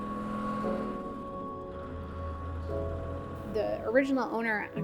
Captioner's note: engine roaring